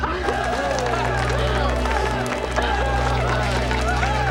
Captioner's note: cheering